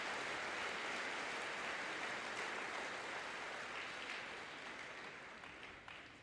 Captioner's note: audience applauding and cheering